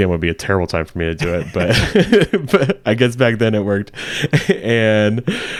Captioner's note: laughing